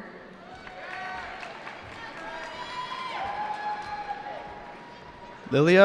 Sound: cheering

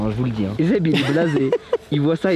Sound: laugh

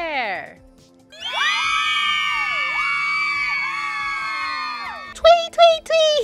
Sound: star-mates cheers

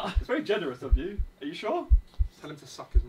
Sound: laughing; heart beating

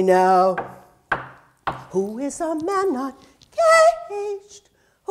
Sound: knocking

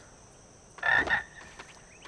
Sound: croaking

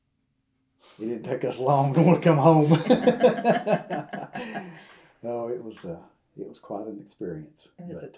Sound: laughter

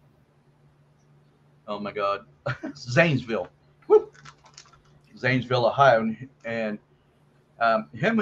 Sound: chuckles

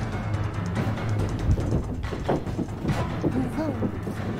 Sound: pitter patter

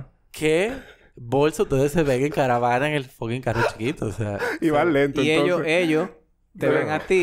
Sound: laughs

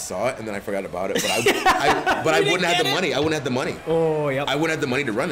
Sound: laugh

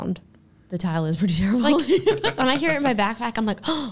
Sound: laughing

